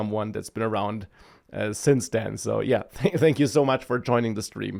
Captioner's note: laughs